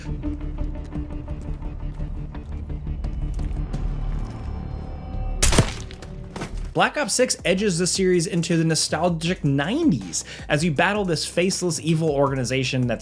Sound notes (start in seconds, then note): 0.2 tense music; 5.4 gunshot thuds